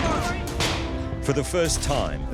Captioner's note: pistol fires